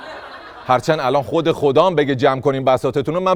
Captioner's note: laughter